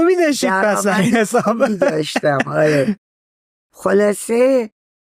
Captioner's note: laughs